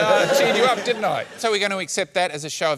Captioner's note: laughter